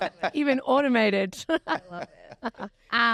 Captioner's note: laughs